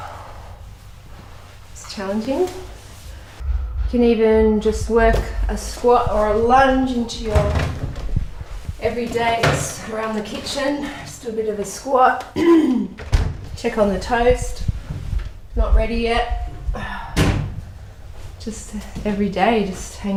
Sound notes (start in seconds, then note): 12.4 clears throat; 15.9 sighs